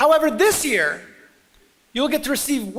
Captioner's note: none